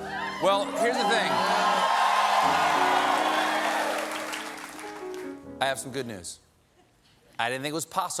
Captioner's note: cheers and applause